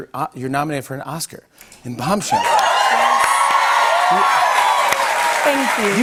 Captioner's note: cheers and applause